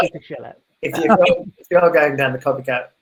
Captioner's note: laughing